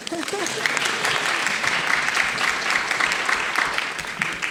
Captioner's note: audience applauding